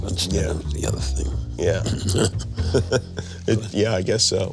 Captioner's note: laughing